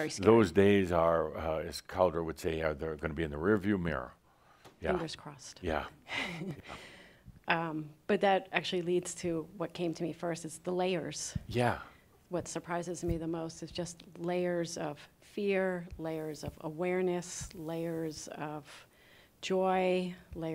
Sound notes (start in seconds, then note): 6.1 she chuckles